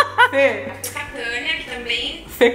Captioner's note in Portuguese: risos; beijo estalado